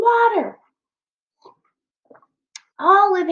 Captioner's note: swallows water